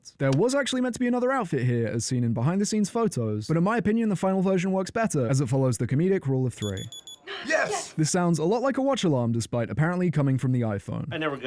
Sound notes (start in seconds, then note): 6.6 beep beep